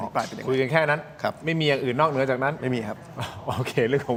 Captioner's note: laughs